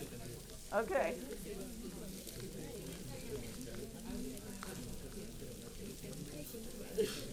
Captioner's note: paper crinkling and audience chattering